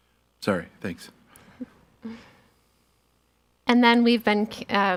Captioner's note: laughing